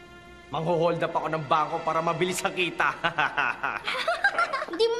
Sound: laughs; giggles

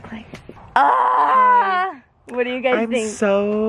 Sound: screaming

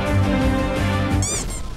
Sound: squeak

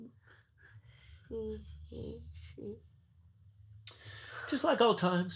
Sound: Franky murmurs

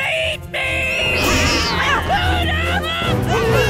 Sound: meowing; cooing

